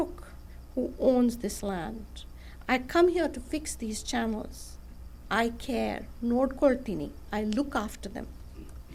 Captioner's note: non-english speech